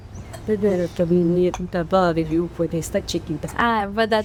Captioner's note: speaking spanish